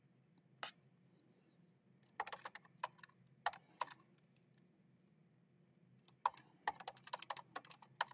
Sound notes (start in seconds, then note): 2.1 keyboard clacking continues